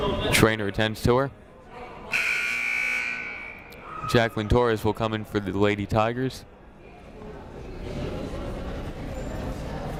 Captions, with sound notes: Trainer attends to her. (buzzer blares) Jaclyn Torres will come in for the Lady Tigers.